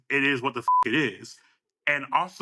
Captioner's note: beep